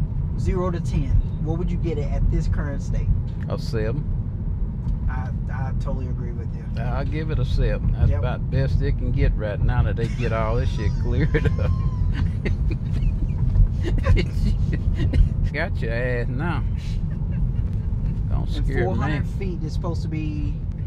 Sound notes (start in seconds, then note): 11.8 laughs